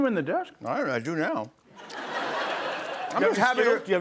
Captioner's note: laughter